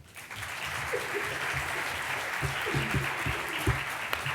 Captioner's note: applause